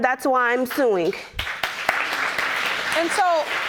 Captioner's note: applause